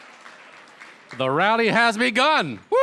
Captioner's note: applause